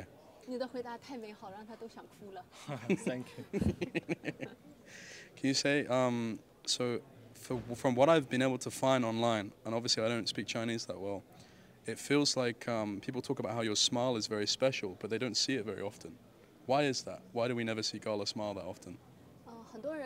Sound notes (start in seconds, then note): 2.6 laughs